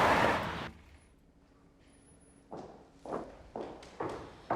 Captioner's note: tires screeching